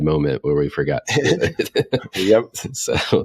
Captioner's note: laughing